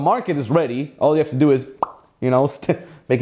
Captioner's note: smacks lips